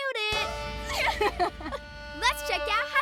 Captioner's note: both chuckling